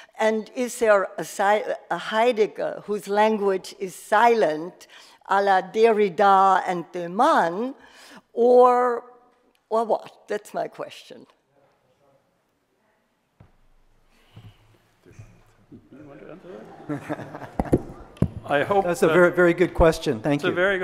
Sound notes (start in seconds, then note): 15.8 laughs; 15.8 audience laughs